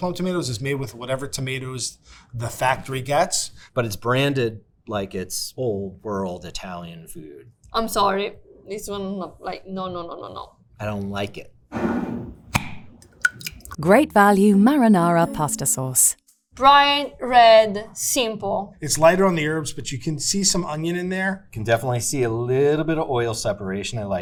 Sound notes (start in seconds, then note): 13.0 jar cap clacking; 13.0 jar scraping; 13.0 sauce sloshing